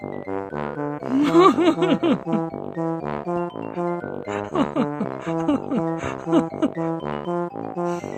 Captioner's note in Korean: 웃음